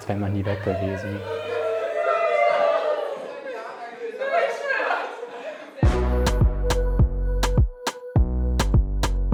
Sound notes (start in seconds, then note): 1.8 cheers; 5.8 dynamic music